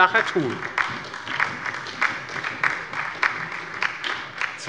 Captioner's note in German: Beifall bei der LINKEN und der SPD